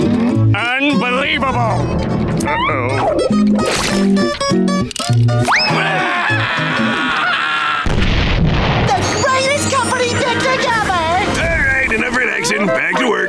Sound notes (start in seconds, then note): 5.5 screaming